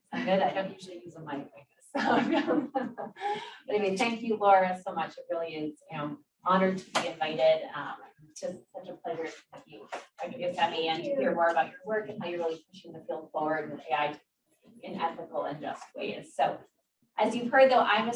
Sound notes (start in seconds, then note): 2.0 laughs